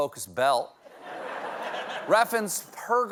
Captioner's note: laughter